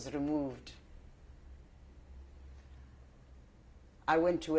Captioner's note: pauses for 3 seconds